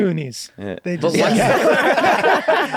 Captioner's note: all laughing